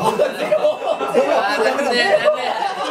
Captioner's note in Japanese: 効果音 チーン